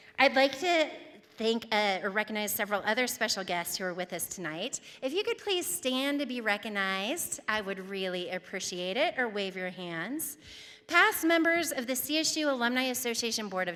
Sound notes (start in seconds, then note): none